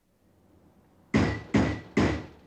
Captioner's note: pounding on door